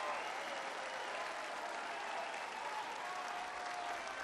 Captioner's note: applause